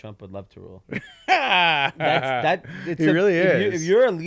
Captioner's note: laughs